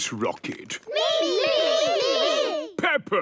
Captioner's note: calling out in turn